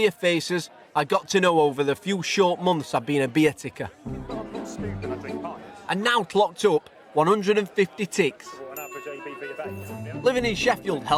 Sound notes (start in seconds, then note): 3.8 background chattering; 8.1 background chattering; 8.7 ding